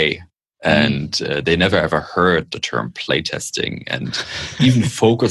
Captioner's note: laughter